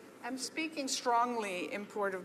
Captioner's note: speaking French